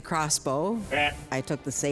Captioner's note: Blent bleating